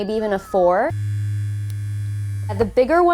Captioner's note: electronic humming